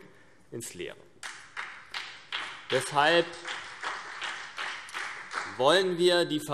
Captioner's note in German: Beifall CDU und BÜNDNIS 90/DIE GRÜNEN